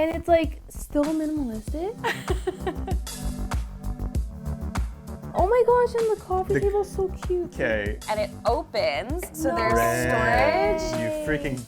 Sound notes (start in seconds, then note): 2.0 laughing; 2.5 upbeat music